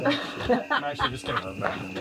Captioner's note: laughter